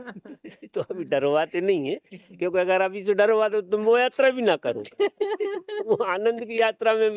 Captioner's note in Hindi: हंसी